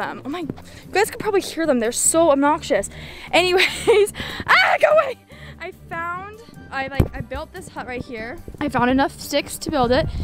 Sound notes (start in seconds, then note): 3.4 laughs